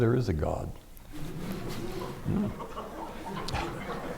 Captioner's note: laughter